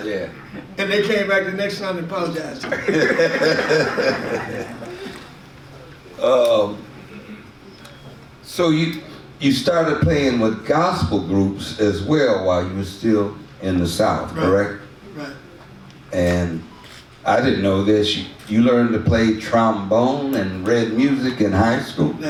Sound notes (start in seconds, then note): 2.6 audience laughs